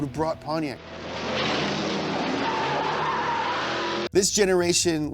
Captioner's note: tires squealing